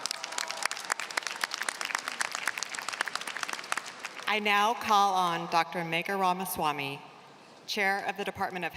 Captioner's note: applause